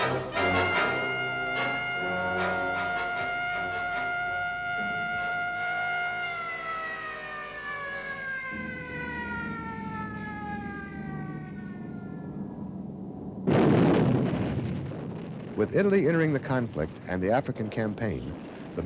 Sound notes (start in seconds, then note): 0.4 siren wails; 8.7 engines rumble; 13.4 cannon blasts